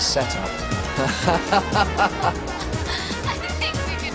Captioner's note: laughing